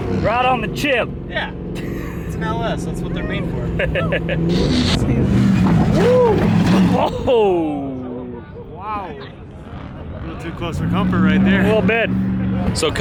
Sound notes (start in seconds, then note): 3.7 laughing; 4.2 engine revving